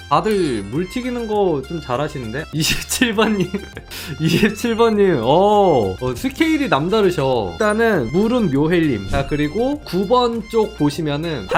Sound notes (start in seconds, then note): 3.1 laughing